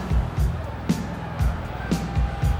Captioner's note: crowd chatter